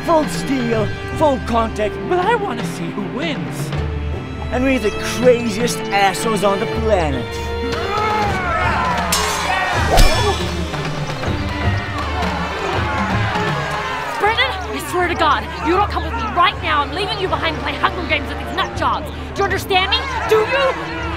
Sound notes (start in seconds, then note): 7.4 crowd Cheers